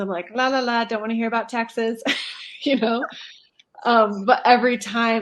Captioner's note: laughter